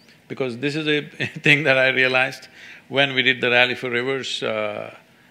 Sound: laughs

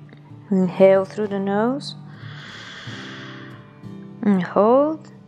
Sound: inhales

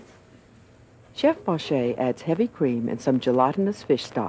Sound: voiceover

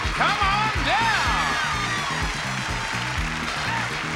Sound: audience applauds

